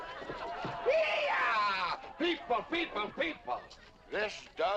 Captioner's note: whooping